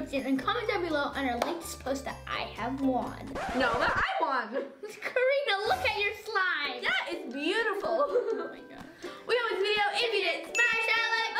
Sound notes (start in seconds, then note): 3.3 record scratching